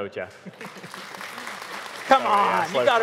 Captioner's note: audience applauding